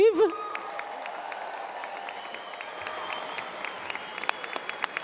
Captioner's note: audience cheers and applause